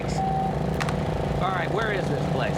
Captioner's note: phone beeps